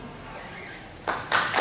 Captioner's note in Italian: Applauso